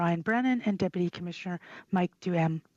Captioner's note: speaking French